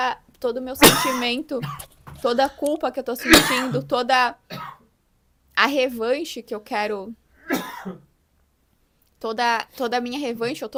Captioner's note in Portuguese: tosse